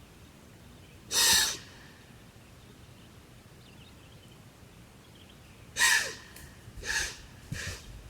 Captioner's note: deer alarm call